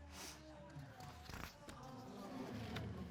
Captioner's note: sniffling